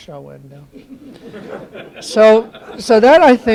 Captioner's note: laughter